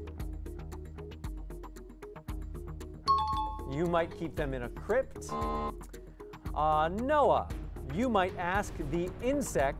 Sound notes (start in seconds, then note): 3.0 timer bell; 5.3 error buzzer